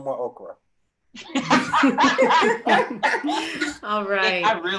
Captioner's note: all laugh